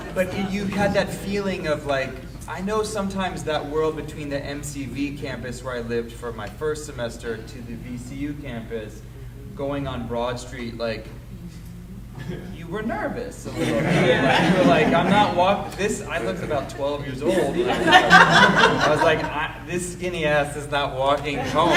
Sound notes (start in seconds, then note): 13.5 audience laughing